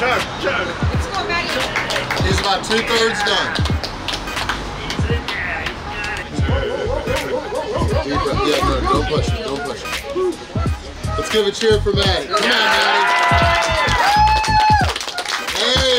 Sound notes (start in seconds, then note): 6.7 cheering; 12.3 cheering and applauding